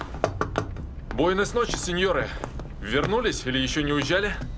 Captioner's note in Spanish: en español